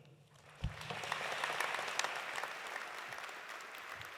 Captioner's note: audience applauding